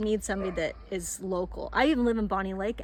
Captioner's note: dog barks